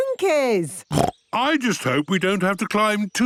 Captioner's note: snorts